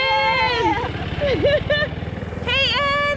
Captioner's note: laughter